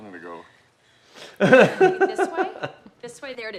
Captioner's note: both laugh